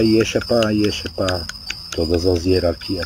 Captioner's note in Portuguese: vibração